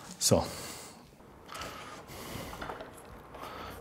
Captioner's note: concentrated breathing